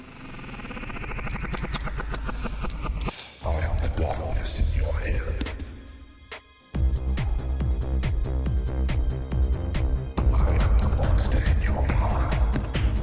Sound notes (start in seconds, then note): 0.0 propeller rapidly slowing down sound effect; 3.7 demonic Voice; 6.9 intense techno music plays